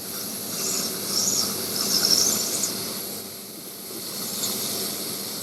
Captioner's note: machine welding